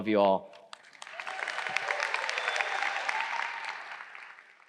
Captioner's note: crowd applauds